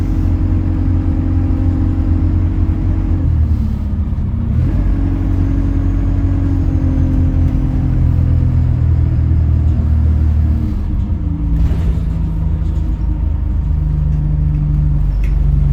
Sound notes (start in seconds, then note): none